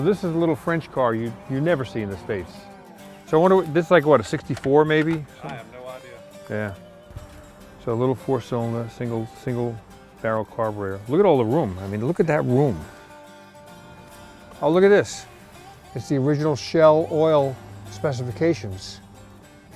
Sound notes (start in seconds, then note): 5.5 voiceover